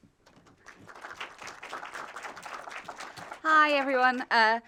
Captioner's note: audience applauding